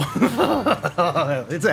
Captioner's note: laughs